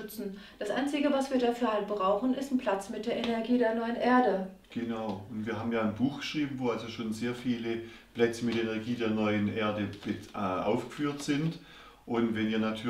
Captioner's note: in German